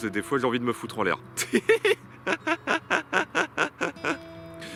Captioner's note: laughs